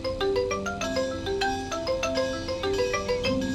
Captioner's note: bell clangs